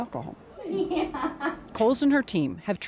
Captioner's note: giggles